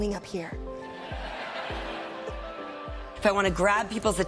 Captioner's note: audience laughing